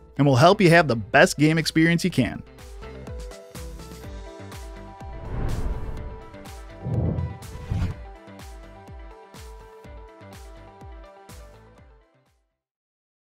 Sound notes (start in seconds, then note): 2.9 upbeat music; 4.9 air whooshing; 8.8 upbeat music